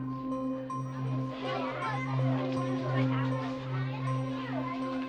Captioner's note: children chattering